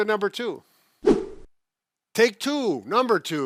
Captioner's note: air whooshes